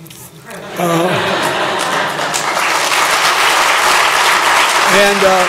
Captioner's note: applause